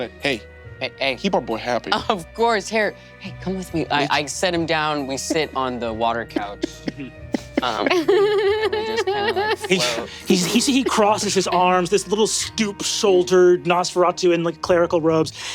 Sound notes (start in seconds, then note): 6.2 Lou and Emily laughing